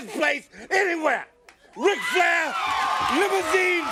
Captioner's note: crowd cheering